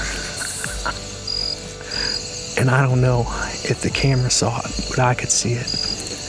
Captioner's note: whispering